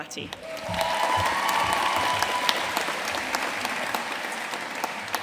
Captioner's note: audience cheering and applauding